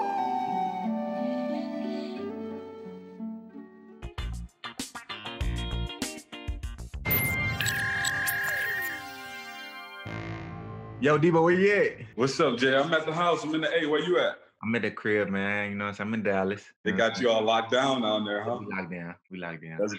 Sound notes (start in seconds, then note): 0.0 whimsical music; 4.2 quirky music; 7.0 electronic feedback